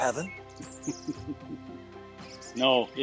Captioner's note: chuckles